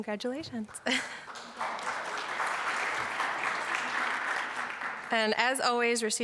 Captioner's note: applause